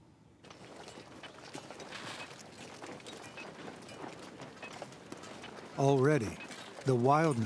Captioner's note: metal clanging, hammering